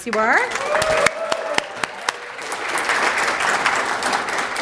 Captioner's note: applause